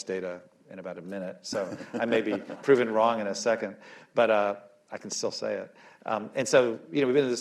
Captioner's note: laughs